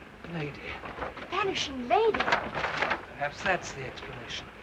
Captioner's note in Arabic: حفيف ورق